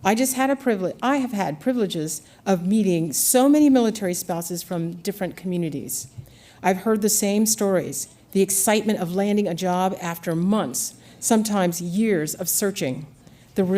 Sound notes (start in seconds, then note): none